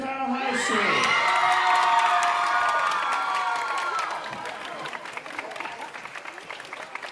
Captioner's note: audience cheering and applauding